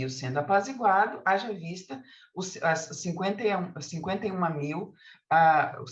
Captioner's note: continues speaking in Portuguese